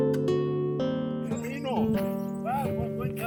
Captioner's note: speaking in foreign language